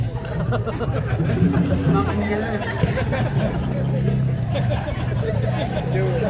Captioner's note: laughing